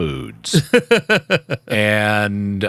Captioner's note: laughing